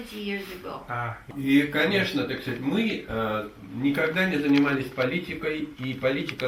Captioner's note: speaks in the Russian language